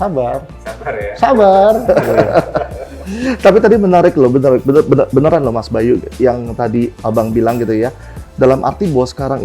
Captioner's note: laughs